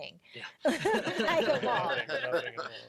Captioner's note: all laugh